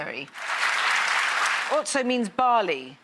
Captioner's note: applause